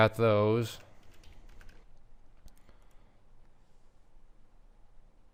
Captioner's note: keyboard clacking